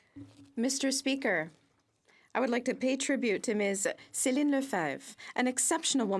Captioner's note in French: voix de l'interprète